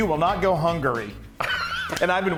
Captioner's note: laugh